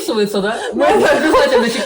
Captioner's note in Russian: Истошный смех